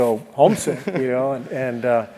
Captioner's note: laugh